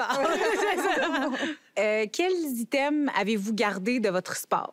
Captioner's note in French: rires